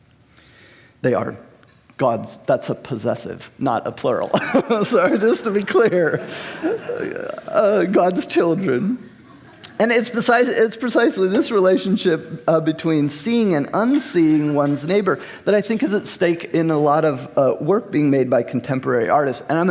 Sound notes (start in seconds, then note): 4.2 host laughing; 6.9 laughing; 8.9 crowd laughing